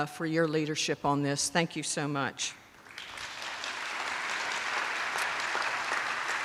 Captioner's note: attendees applauding